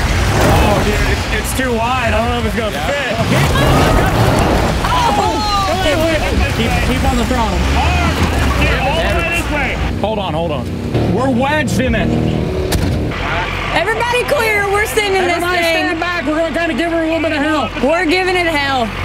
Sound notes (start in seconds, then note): 3.1 laughs; 12.7 door closes